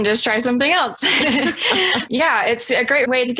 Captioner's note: laughs